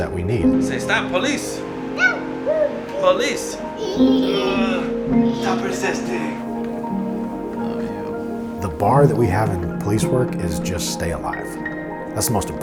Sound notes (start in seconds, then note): 3.5 toddler sounds